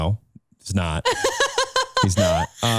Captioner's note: laughing